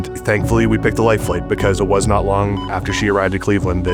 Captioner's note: heart monitor beeping